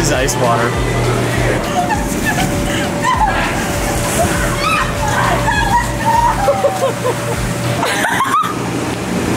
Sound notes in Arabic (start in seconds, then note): 4.4 صراخ